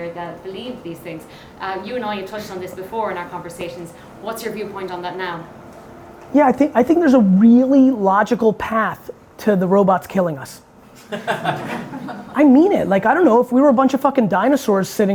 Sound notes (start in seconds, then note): 11.0 audience laughing